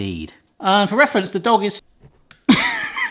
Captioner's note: laughs